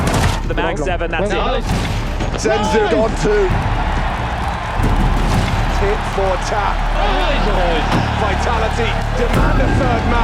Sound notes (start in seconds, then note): 3.3 crowd cheering